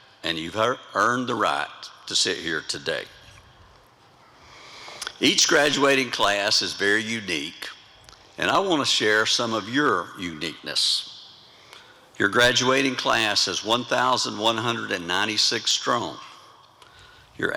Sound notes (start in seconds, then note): none